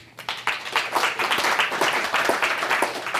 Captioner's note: applause